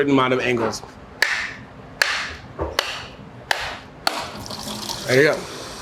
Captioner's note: coconuts thwacking